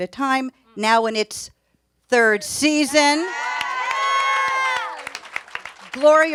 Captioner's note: audience cheers